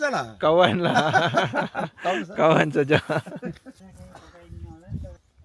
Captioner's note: laugh